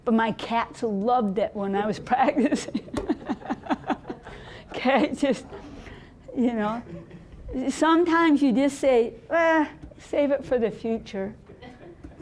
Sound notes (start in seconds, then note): 2.4 laughing